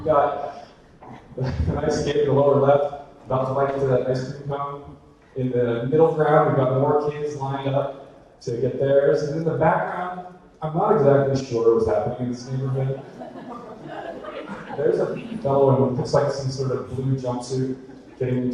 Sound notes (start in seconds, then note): 0.0 audience laughter; 14.0 audience laughter